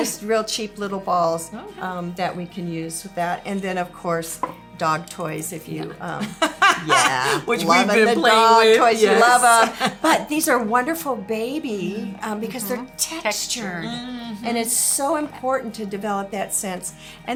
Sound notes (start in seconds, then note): 5.8 laughs